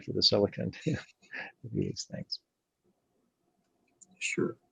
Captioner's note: laughs